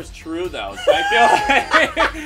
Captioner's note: laughs